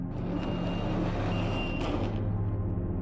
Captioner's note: door opening